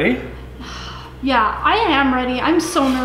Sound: sighs

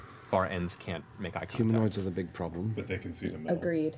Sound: none

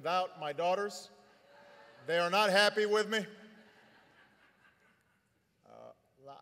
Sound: laughter

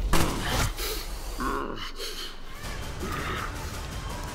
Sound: groans

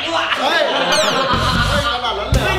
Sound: laughs

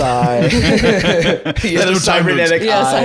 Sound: all laughing

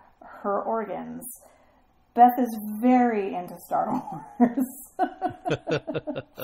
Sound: laughs; laugh

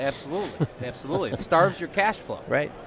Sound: laughter

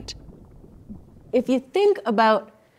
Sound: water burbling

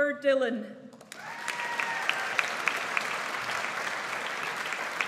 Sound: audience applauds

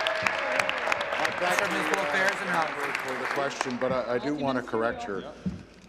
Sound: applause; applause and cheering

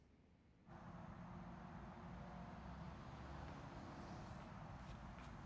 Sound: car engines roaring

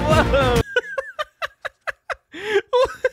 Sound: laughing

